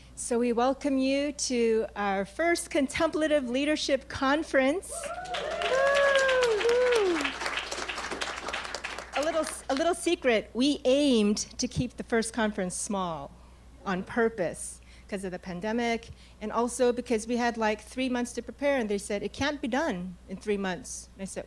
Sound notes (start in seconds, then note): 5.0 audience clapping